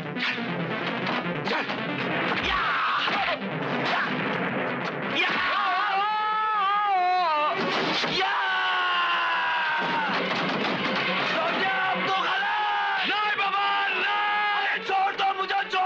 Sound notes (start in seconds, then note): 5.6 groans; 8.1 screams